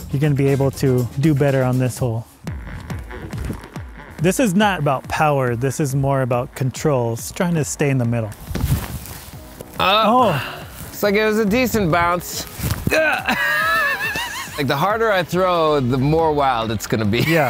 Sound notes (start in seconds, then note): 2.4 dramatic music playing; 7.9 clothes rustling; 12.8 laughing